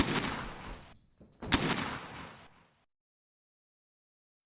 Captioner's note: guns banging